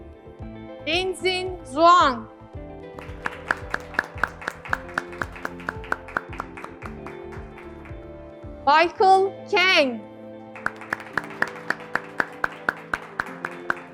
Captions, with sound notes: Lin-Hsin Chuang, (graduates clapping) Michael Kang, (graduates clapping)